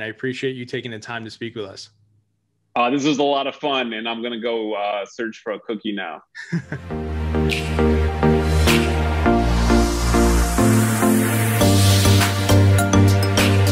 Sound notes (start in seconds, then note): 6.3 chuckles; 6.4 upbeat music